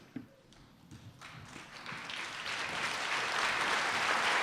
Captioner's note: applause